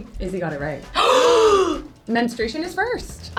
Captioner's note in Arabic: كلاهما يلهث